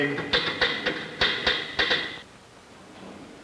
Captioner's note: typewriter clacking